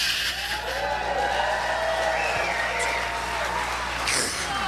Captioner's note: audience cheers